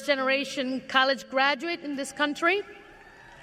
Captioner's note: cheers and applause